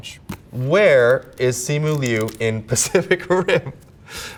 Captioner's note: paper rips; Simu laughs